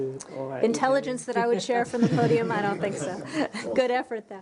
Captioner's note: laughter